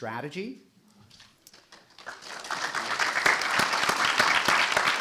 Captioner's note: audience applauding